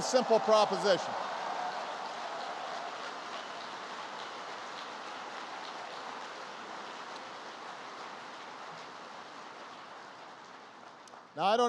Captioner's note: applause